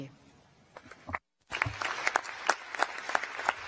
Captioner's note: applause